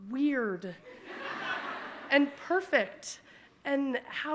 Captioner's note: audience laughing